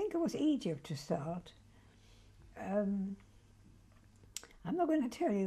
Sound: pauses for 3 seconds

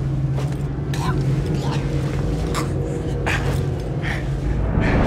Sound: Derek coughing

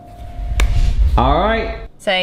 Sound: hands clap

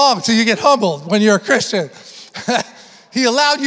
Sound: laughs

